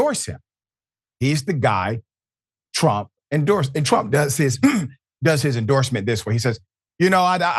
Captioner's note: cough